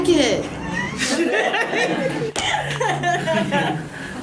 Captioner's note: audience laughs